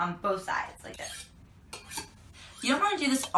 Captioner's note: knife screeching